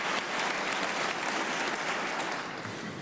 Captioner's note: applause